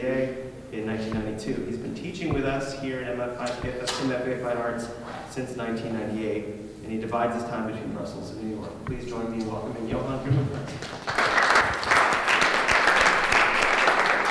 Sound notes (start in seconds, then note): 10.7 applauding